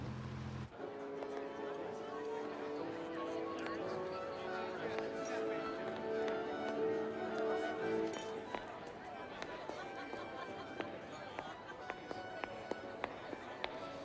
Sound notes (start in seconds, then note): 1.0 background chatter; 1.0 jaunty classical music